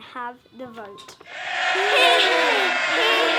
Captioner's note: MPs cheering